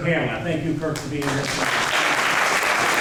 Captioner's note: applause